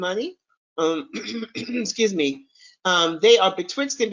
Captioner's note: clears throat